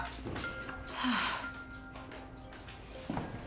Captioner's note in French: la cloche de la porte sonne